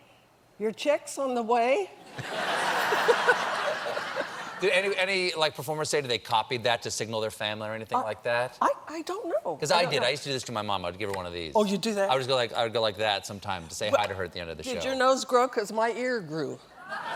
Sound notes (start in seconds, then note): 2.1 laughter